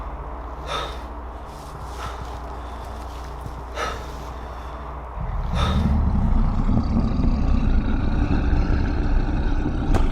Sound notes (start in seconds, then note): 5.2 creature roaring